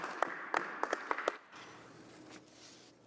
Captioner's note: applause